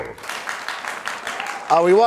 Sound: applause

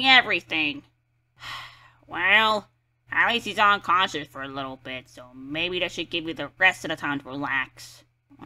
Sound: sighs

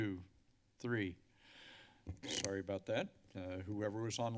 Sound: inhaling

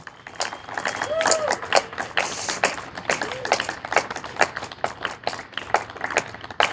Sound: audience applauding and cheering

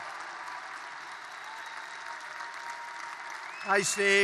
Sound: applause

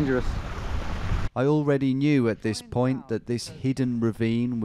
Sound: voiceover

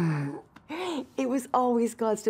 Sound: Max groans

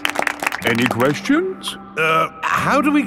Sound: all clapping

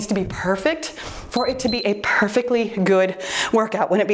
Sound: timer beeps

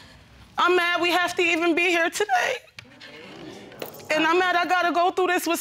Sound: voice breaking

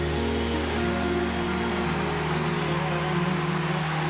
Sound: applause

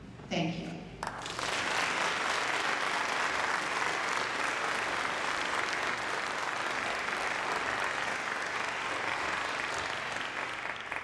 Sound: applause

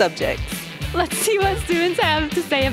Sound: laughing

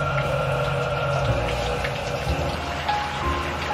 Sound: water rushes

